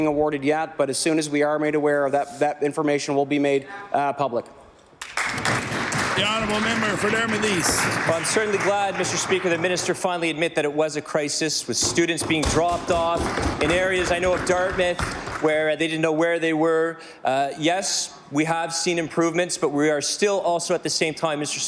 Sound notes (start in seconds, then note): 12.5 applause